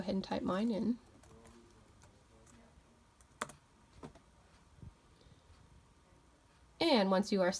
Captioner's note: pause